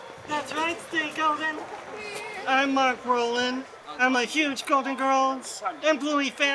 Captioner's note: people chattering and laughing